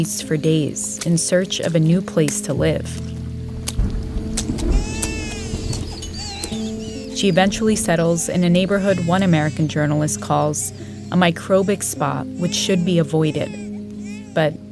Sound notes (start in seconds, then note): 4.6 soundbite of baby crying